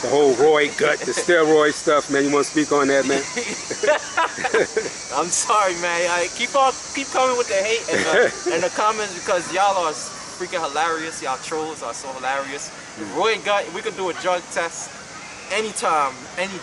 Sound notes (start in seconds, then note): 3.0 laughing